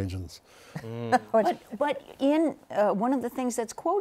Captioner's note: laughs